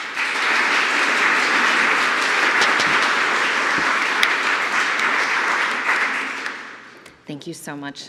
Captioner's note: applause